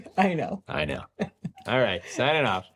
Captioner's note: laughs